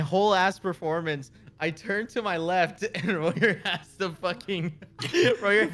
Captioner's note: laugh